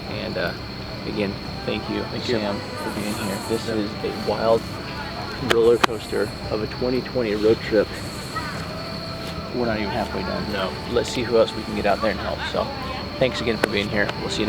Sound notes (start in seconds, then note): 5.3 hands patting; 7.6 upbeat music